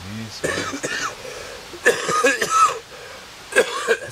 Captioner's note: hard cough